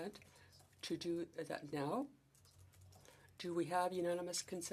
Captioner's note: speaking French